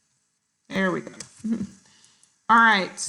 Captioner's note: chuckles